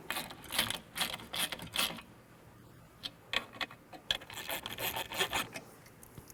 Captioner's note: ratcheting